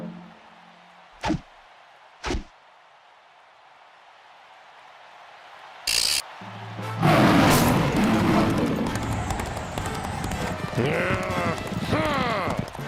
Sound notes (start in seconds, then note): 7.0 loud roar; 10.4 growl